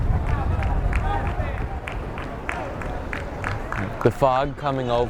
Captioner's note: fans clapping rhythmically